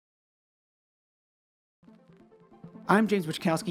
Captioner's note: record needle crackle; soft synth music